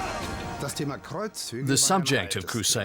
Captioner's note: speaking German